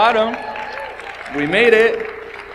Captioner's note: audience applauds